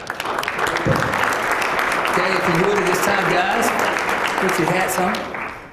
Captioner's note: applause